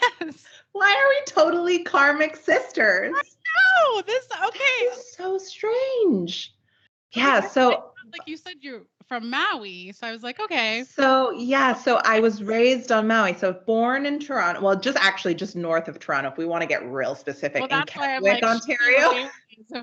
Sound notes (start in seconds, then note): 1.5 both laughing; 4.1 both giggling